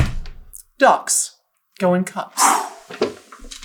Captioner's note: exhales